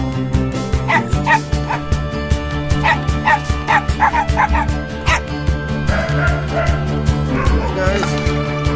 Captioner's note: dogs barking